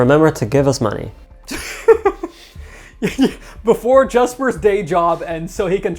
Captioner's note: chuckles